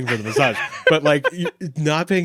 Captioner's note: laughing